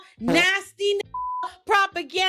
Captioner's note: beep